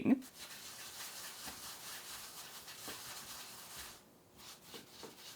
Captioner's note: smooth sounds of dough rolling around